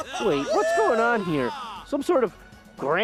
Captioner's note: laughter